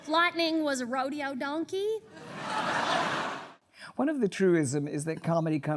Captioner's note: laughter